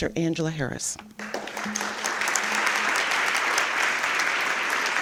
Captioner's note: applause